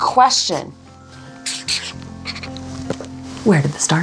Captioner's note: pen scribbling